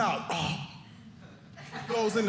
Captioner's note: audience laughing